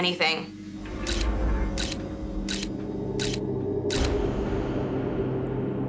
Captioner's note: camera shutter clicking